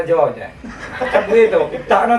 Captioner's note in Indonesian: tertawa